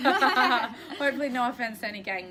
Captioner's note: laughter